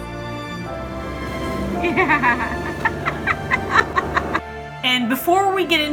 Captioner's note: instrumental background music; laughing in background of clip